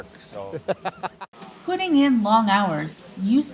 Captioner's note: laughs